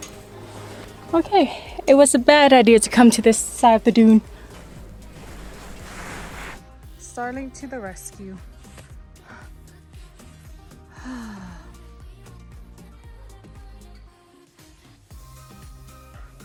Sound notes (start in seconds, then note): 10.9 sigh